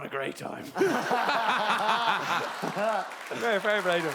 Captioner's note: laughing